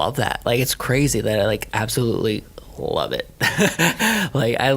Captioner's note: laughing